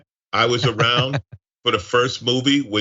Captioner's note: laugh